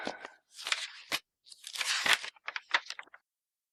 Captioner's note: pages flipping